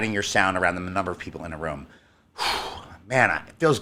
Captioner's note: sighs